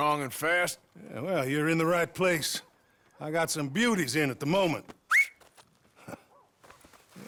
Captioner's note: whistles